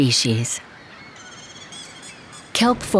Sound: birds chirping

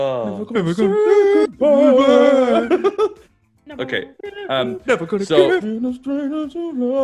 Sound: laugh

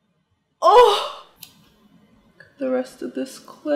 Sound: gasps

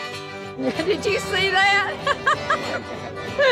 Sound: laughing

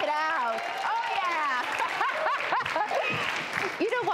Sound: laughs

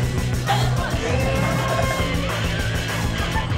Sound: voiceover

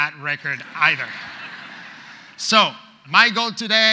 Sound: audience laughs

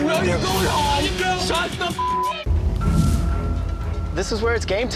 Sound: beep

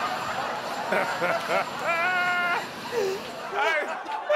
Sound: laughing

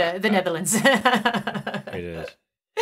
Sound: chuckles

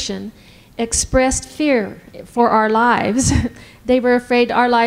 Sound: laughs

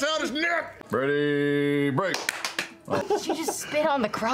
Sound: everyone claps at a different time

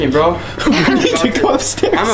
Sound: laughs

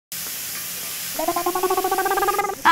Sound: sizzling sound

